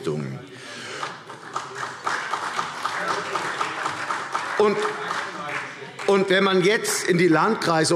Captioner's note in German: Beifall CDU und vereinzelt AfD